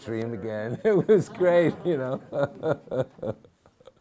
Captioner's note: laughs